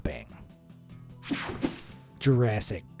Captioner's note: screen buzzes and whooshes